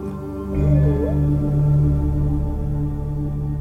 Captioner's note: whale calling